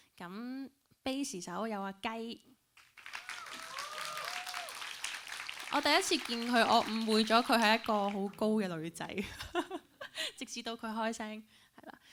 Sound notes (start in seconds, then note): 2.8 applauds and cheers; 9.5 laughs